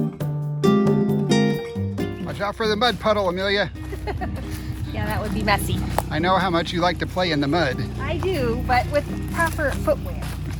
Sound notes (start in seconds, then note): 3.8 laughing